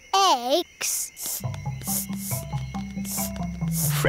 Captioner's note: sniffing